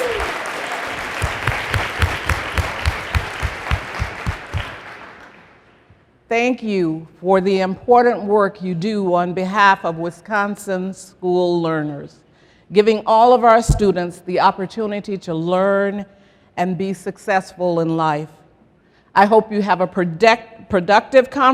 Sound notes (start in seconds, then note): 0.0 applause and cheering; 2.0 applause